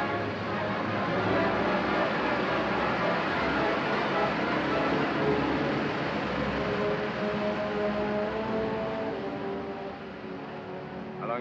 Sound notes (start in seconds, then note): 3.6 ominous music; 5.1 flames burning; 7.2 ominous music